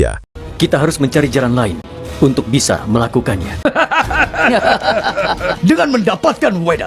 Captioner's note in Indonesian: tertawa